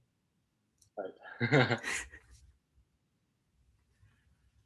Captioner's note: laughing